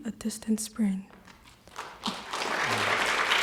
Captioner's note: applause